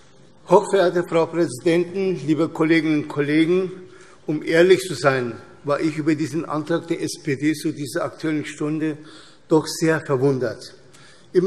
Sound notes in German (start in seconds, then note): none